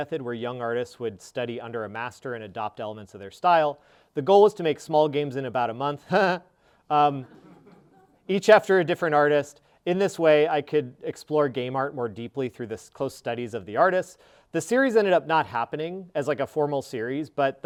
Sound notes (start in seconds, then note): 7.1 sarcastically laughing